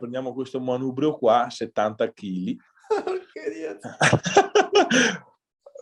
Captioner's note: laughs